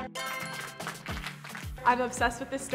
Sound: applauding

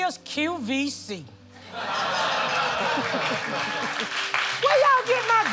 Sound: laughter

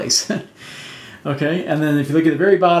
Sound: laughs

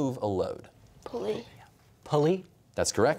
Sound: quietly; whispering

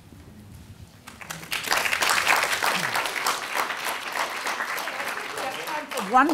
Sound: audience clapping

